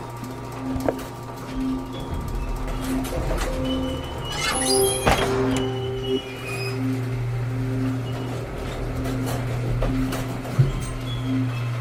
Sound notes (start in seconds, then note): 0.6 heavy door opening; 6.1 heavy door closing